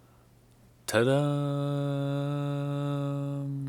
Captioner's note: Imitating Netflix "Tudum" jingle